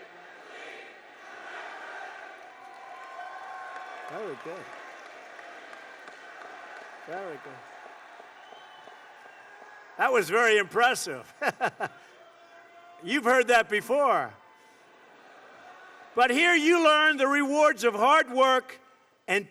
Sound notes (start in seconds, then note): 7.6 applause; 11.2 laughter